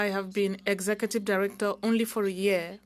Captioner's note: speaking French